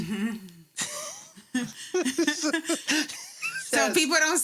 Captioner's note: laughter